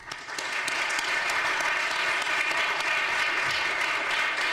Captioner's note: audience applauding